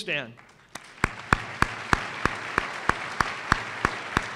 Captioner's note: applause